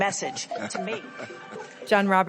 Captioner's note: laughs